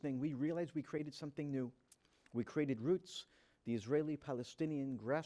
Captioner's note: none